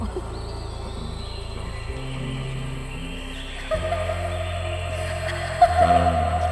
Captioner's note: birds calling; woman laughing